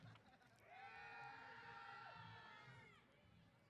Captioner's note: cheers